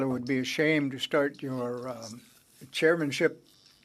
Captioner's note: speaking French